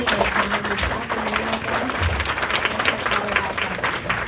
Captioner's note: clapping